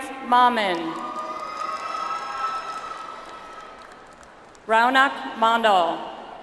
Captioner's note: audience applauds